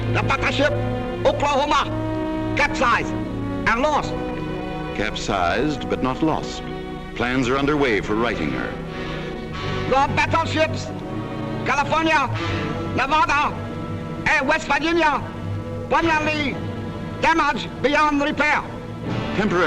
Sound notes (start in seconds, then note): 0.3 voiceover; 5.1 voiceover; 10.1 voiceover; 19.5 voiceover